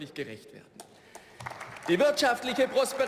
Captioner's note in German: Beifall